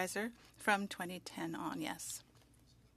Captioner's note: speaking French